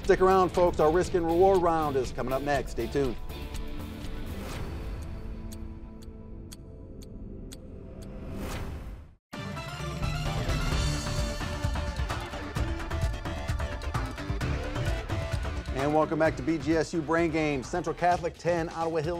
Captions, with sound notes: Stick around folks, our Risk and Reward round is coming up next. Stay tuned. (clock ticking) (intermission music) And welcome back to BGSU Brain Games. Central Catholic, 10,